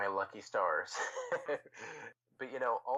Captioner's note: chuckles